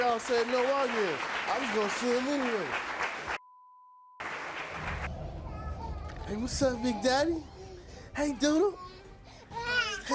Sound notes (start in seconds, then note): 5.5 baby crying